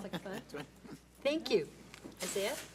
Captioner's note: several board members laugh